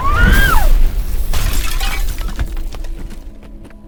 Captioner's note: girl screaming